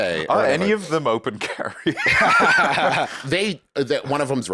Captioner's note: both laugh